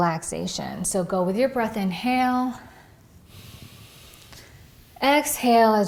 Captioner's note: breathes deeply